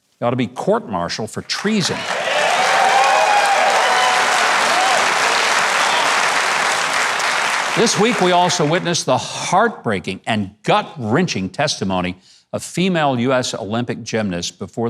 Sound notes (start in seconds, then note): 1.6 audience cheers and claps